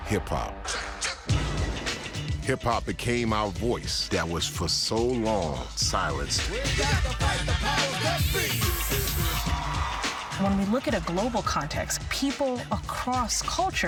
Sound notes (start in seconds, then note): 9.4 background Voices; 10.1 crowd cheering